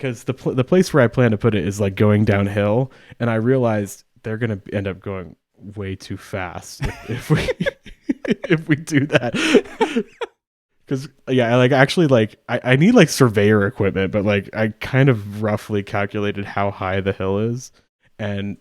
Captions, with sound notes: because the place where I plan to put it is like going downhill. And I realized they're gonna end up going way too fast (laughs) if we do that. (both laughing) Yeah, I actually need like surveyor equipment but like I kind of roughly calculated how high the hill is